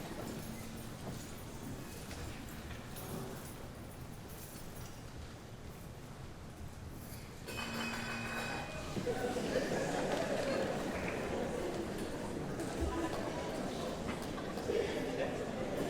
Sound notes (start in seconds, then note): 7.7 someone rings cowbell; 8.9 audience laughs